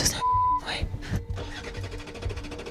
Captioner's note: beep